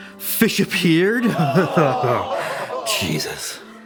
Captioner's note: crowd groans